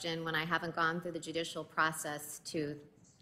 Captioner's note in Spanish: habla en ingés